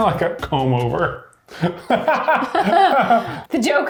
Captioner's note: laughing